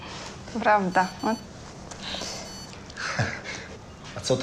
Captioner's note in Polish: dźwięk telefonu